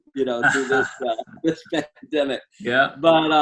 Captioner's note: laughing